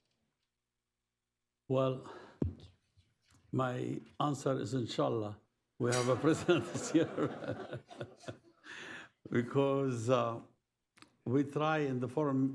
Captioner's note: laughter